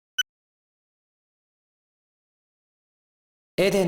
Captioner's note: silence